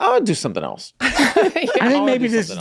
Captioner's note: all laughing softly